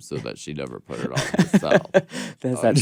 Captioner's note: Courtney laughs